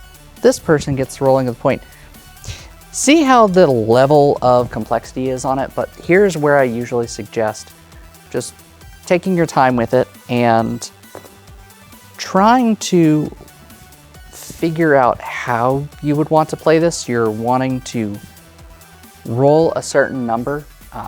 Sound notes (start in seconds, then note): 11.1 dice rolling